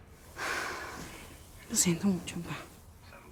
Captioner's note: sighs